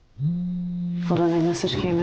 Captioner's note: phone buzzes